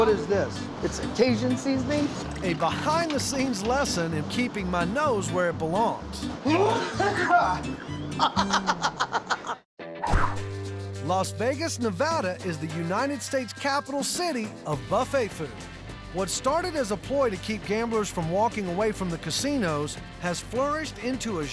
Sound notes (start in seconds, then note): 6.3 coughing hard; 6.4 laughs